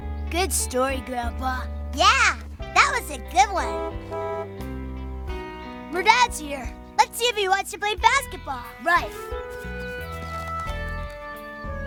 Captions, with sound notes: - Good story, grandpa. - Yeah, that was a good one. (car horn honking) - Merdette's here. - Let's see if he wants to play basketball. - Right.